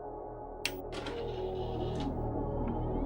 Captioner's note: DVD tray whirs